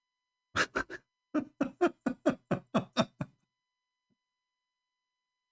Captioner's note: Ketawa